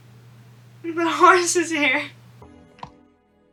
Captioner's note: laughs